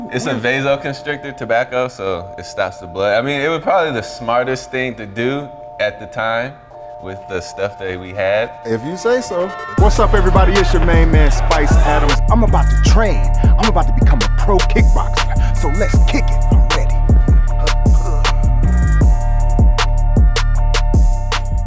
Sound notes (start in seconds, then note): 10.2 upbeat R&B music; 17.9 grunting; 18.9 upbeat R&B music